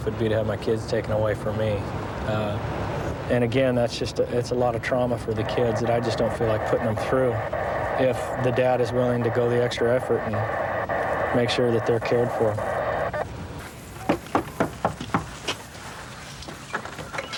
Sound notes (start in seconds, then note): 14.0 knocking